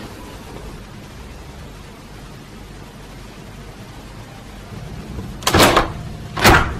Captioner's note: roller shutter